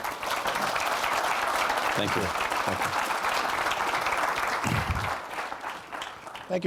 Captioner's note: applause